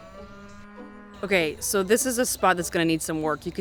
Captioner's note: cow moos